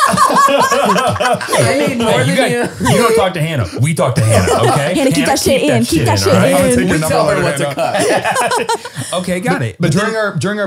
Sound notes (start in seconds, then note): 0.0 all laughing; 8.2 they all laugh